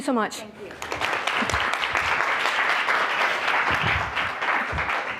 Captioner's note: applause